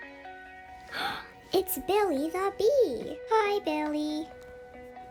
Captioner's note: gasp